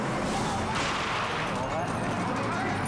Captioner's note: dramatic music continues; shot fires; people speaking in foreign language